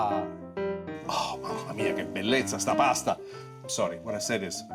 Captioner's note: speaking Italian